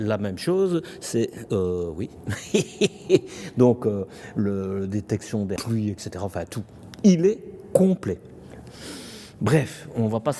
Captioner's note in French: rires